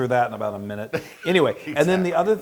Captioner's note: laugh